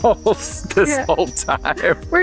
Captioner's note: laughs